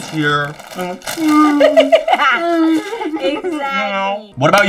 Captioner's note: crying; laughing